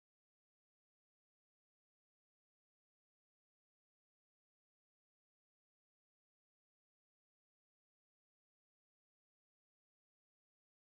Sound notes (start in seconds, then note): none